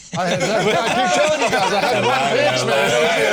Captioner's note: all laughing